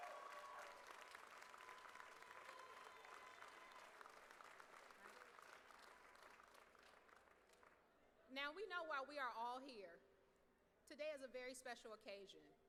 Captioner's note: applause